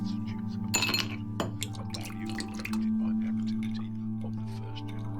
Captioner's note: ice cubes rattling